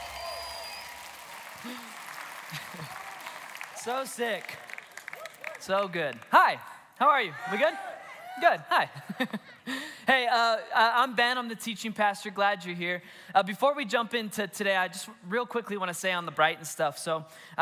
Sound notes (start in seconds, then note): 7.2 congregation cheers; 8.9 laughs